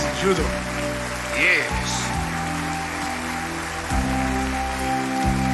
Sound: applause

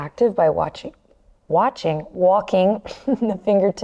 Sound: chuckles

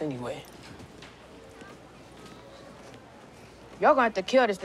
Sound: students chattering in background

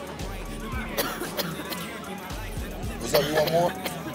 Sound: woman coughing

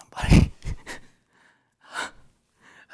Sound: laughing

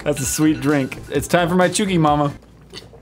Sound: alarm sounds

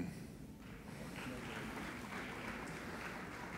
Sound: applauding

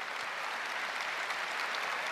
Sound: applause

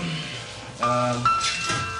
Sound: ding

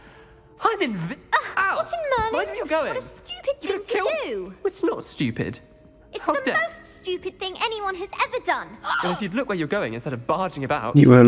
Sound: students arguing

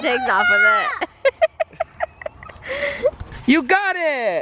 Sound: laughing

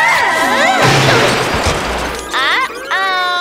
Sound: wheels screeching; crashing

